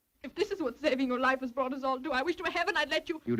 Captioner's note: none